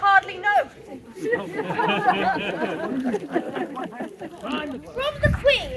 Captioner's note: laughter and background chatter